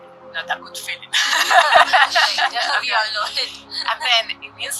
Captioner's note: laughing